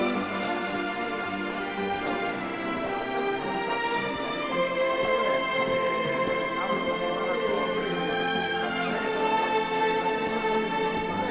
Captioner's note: conversations from passengers carry on amonst the flamboyant band music